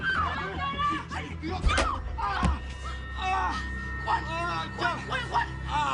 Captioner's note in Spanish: Quejidos